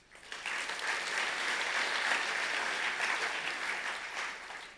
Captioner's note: audience applause